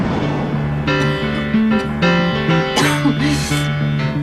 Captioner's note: coughing